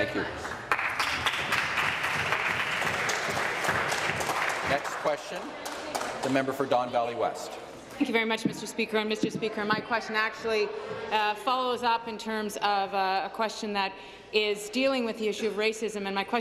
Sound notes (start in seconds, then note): 4.2 applause